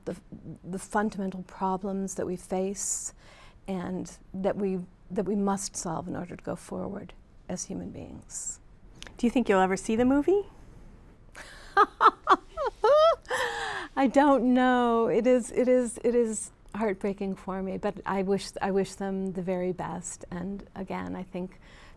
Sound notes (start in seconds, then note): 11.4 laughter